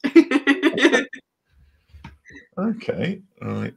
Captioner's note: laughter